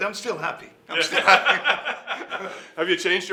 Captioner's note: laughing